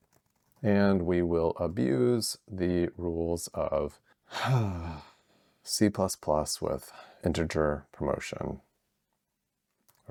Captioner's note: sigh